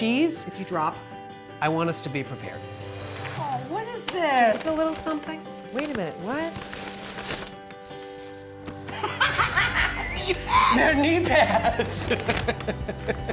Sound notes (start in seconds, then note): 8.9 laughing